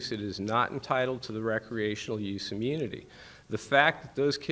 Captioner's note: none